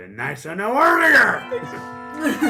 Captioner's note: whimpers